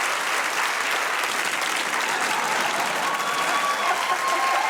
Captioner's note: laughter